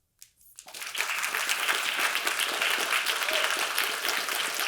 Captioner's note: audience applauding